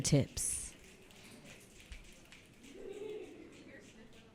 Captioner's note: audience snapping